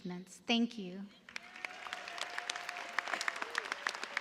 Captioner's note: cheers and applause